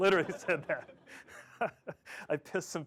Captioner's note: laughter